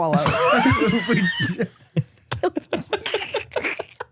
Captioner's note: everyone laughs